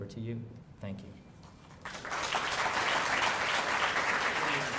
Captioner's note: applause